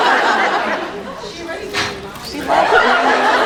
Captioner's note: laughs; crash; laughs